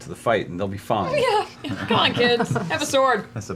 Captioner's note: nervous laughter